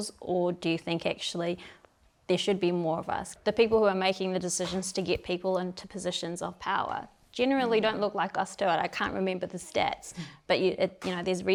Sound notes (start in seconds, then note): none